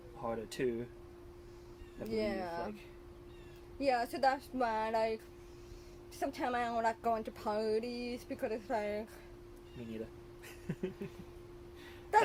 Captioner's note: laughing